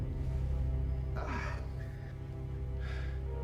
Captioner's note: breathing heavily